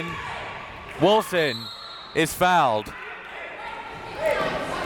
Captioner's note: whistle tweeting; crowd members shouting